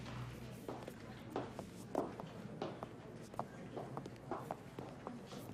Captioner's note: footsteps pounding